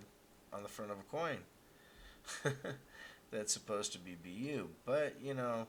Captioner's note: laughs